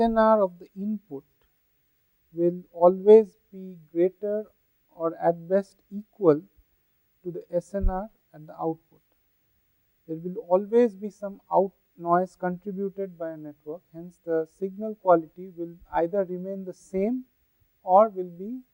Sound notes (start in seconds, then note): 5.0 thermal noise